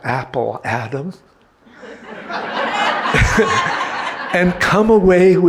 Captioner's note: audience laughing